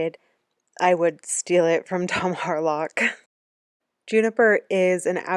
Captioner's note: laughing